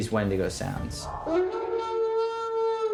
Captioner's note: altered dog howl